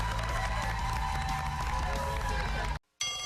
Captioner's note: cheers and applause